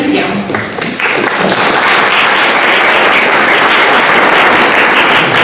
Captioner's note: applause